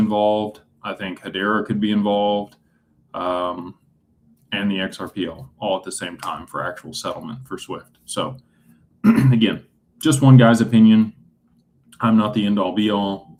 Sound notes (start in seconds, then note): 9.0 clears throat